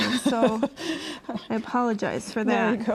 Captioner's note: laughs